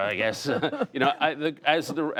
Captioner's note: laughter